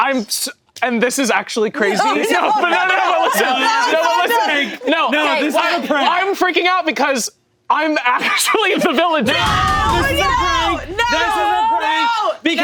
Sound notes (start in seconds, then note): 2.8 overlapping chattering; 9.3 group yelling